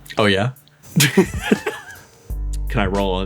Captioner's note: laughs